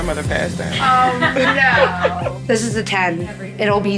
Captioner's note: everyone laughing